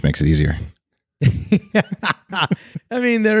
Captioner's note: laughing